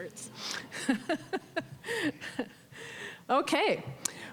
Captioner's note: chuckling